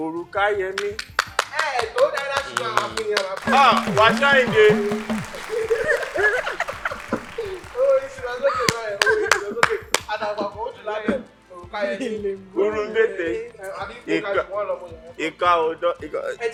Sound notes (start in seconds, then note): 6.0 everyone laughs